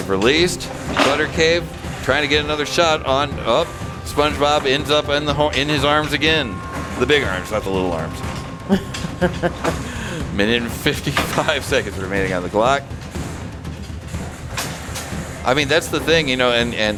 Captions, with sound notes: Released, Butter Cave. Trying to get another shot on, oh. SpongeBob ends up in his arms again. The big arms, not the little arms. (Laughing) A minute and 55 seconds remaining on the clock. (Dramatic Music) I mean, that's the thing, you know, and